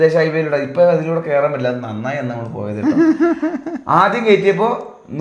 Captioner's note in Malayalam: പൊട്ടിച്ചിരി